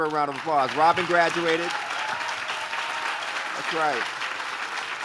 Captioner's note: audience claps